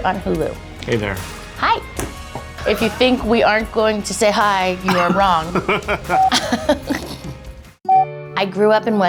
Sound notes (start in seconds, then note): 4.8 laughing